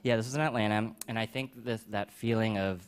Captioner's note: none